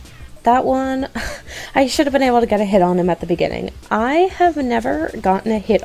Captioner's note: huff